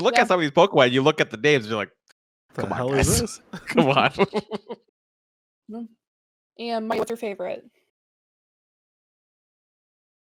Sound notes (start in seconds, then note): 2.6 voice cuts out